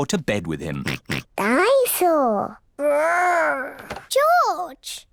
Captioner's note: oinks